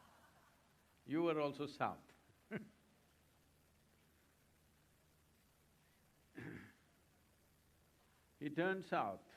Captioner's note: laughs